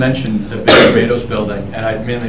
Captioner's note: coughing drowns out speaker